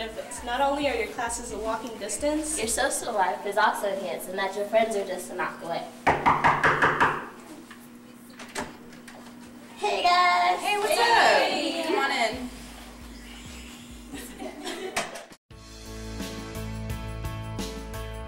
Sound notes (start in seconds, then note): 6.0 knocks on door